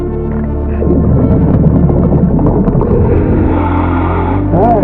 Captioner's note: light intense music; water bubbling